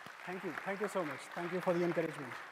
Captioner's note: applause